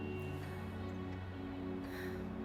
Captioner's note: sighs